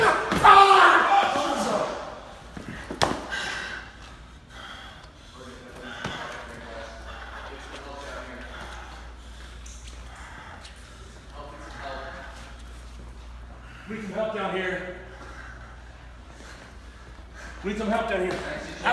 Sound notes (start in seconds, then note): 5.1 breathing hard